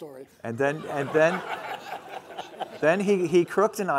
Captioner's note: laughing